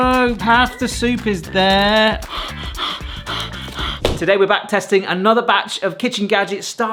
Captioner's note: heavy breathing